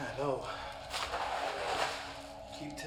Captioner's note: sound of plastic sheeting